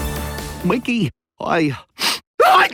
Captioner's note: sniffs